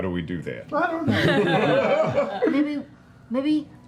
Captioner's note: laughing